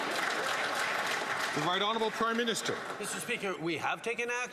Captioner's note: some Applause